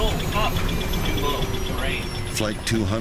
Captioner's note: jet roaring